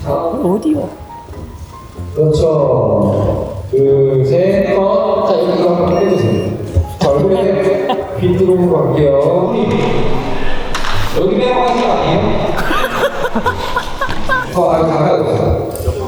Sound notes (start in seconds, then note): 12.8 fans are cheering